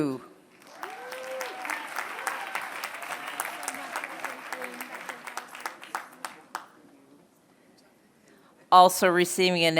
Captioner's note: applause